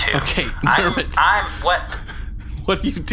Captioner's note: irritated